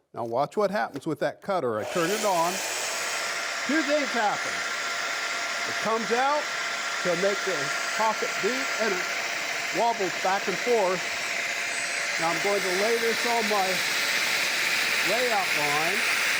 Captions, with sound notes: Now watch what happens with that cutter. I turn it on. (cutter whirring) Two things happen. It comes out to make a pocket and it wobbles back and forth. Now I'm going to lay this on my layout line.